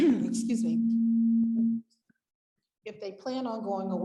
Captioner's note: clearing throat; microphone giving feedback